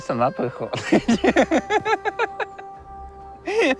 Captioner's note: laughs